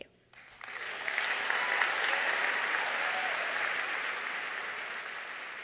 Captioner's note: audience applauding